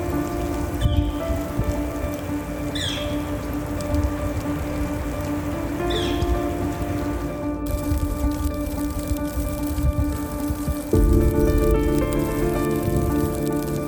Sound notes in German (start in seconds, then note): 2.2 Vogelgezwitscher; 10.7 Schnee fällt aufs Zelt